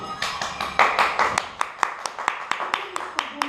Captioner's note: clapping